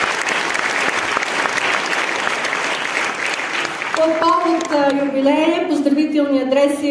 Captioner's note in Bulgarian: аплодисменти